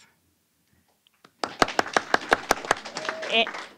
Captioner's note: applause